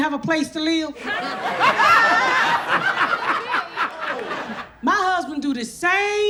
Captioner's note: audience laughs